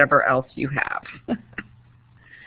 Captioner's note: chuckles